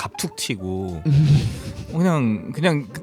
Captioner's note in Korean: 웃음